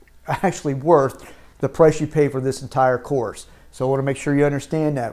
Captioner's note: chuckles